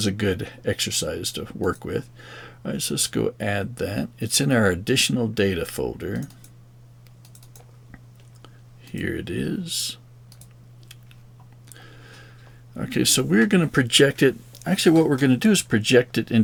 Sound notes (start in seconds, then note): 9.9 silence